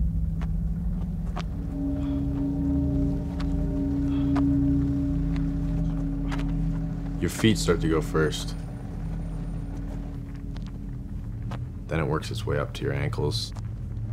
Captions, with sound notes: [footsteps crunching gravel] Your feet start to go first. Then it works its way up to your ankles,